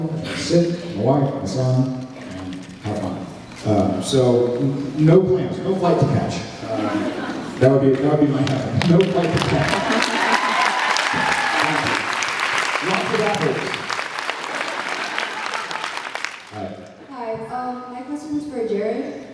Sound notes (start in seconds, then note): 9.5 applauds, cheers; 9.6 laughing; 10.0 applauds, cheers; 12.0 applauds